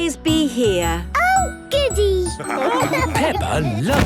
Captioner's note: laughing